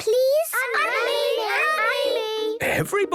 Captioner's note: all calling out